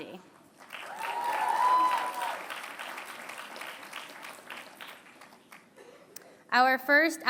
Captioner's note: applause